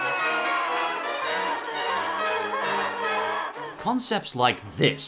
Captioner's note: donkey noises